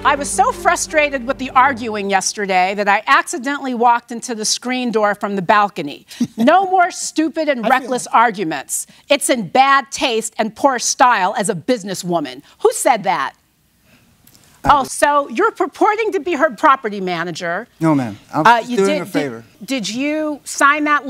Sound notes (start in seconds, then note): 7.6 laughs